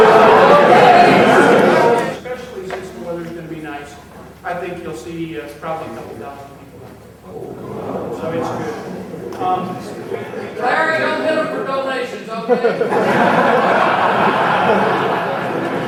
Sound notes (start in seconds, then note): 7.9 crowd murmuring in surprise; 13.0 crowd laughing